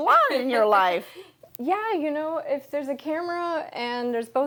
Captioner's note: laughing